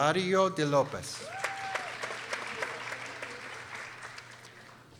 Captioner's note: people applauding